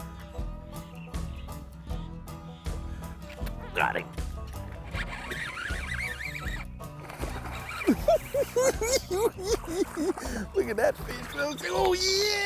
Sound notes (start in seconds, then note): 9.0 cackling